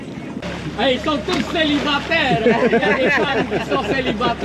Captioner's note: laughs